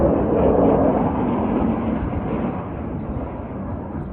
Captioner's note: jet Engines